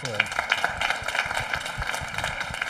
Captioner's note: audience applauding